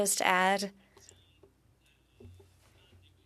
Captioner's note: speaking French